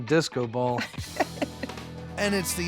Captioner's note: laughs